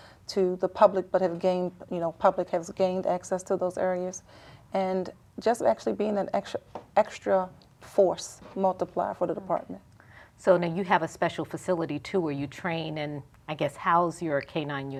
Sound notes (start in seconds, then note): none